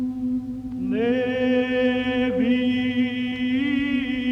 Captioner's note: chanting